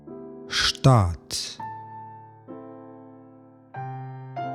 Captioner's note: german